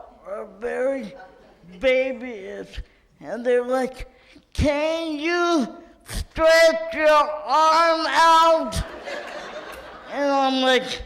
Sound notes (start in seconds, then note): 8.8 audience laughs